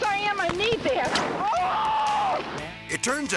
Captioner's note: driver screaming